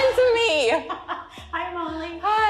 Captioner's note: laughs